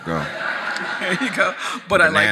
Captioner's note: audience laughs